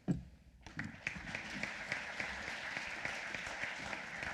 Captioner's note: applause